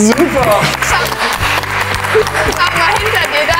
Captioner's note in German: Applaus